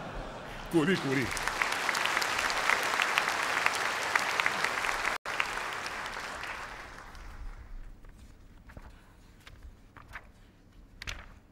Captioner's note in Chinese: 掌声